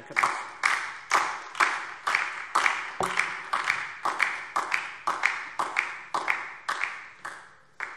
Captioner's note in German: Beifall DIE LINKE und vereinzelt SPD